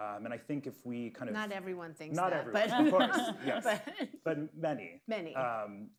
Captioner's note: laughter